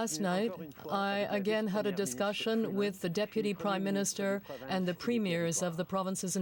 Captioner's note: speaking french